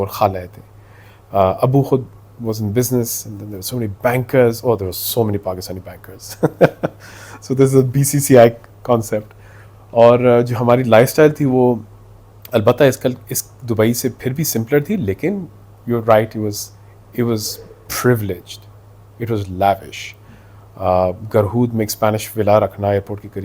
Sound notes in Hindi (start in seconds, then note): 6.3 हंसी